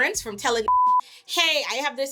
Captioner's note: beep